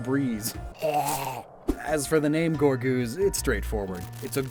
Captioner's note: zombie groan SFX